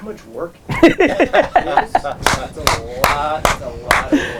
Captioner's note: Gary laughs